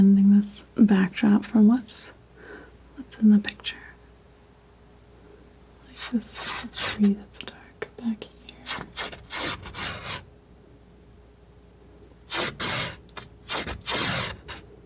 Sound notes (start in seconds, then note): 8.9 scratching